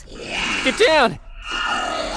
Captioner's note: growls